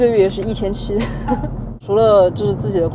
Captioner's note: laughs